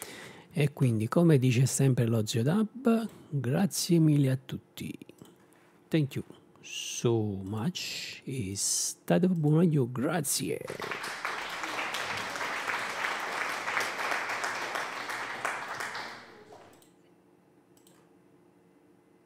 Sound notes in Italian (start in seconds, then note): 10.6 Applauso